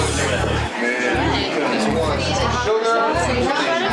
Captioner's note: chatter